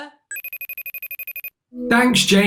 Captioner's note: phone rings